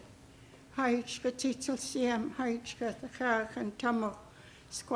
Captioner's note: speaking Hul'q'umi'num